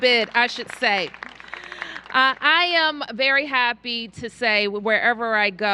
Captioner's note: applause